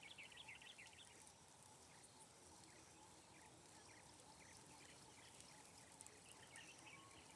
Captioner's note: birds chirping